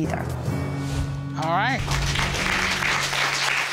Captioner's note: applause